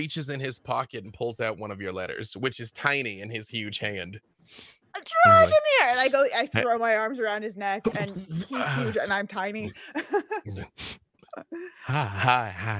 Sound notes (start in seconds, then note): 7.9 laughs